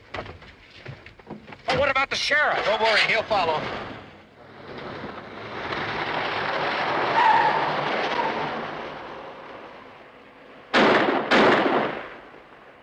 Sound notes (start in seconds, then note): 4.4 engine revs; 6.7 tires screeching; 10.7 gun firing